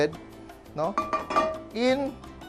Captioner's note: clang